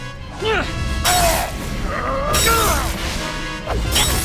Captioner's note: wincing